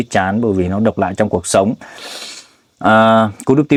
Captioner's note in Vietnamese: khịt mũi